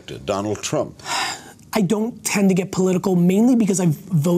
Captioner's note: sighs